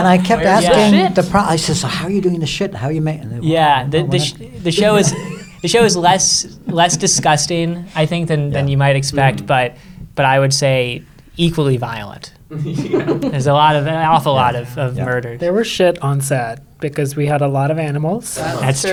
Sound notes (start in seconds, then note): 0.0 everyone laughing; 12.5 everyone chuckles